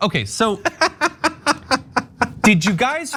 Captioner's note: laugh